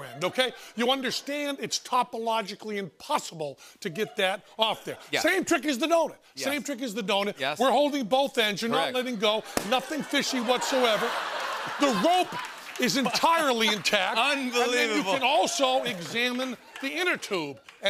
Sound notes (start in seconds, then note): 9.5 pop!; 10.8 laughter